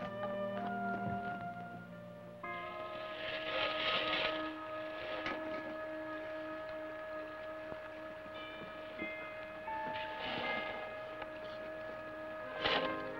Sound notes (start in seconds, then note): 2.4 suspenseful orchestral music; 2.5 scraping